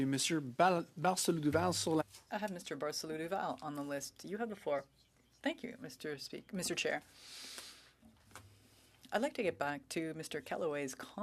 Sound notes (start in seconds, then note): 3.0 speaking French